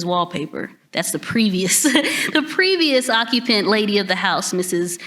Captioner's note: laughs